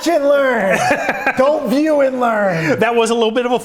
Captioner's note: laughs